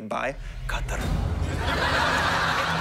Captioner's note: thunder crashes